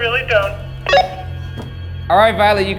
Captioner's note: radio beeps